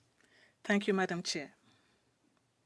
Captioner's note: speaking French